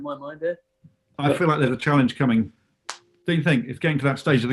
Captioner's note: cracks knuckles